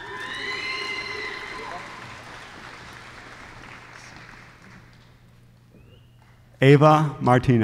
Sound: applause

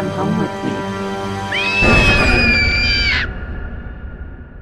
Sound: suspenseful music; screams

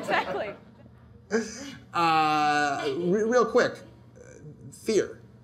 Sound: audience laughter

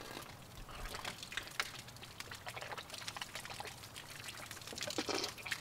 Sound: gurgling and spitting

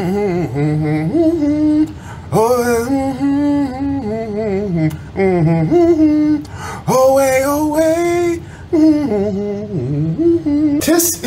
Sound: humming

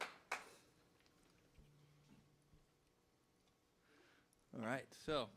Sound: hablando en Inglés

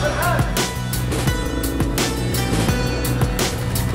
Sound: motorcycle revving

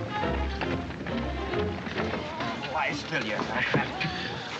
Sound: moaning continues

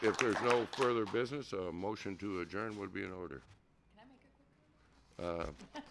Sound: applause

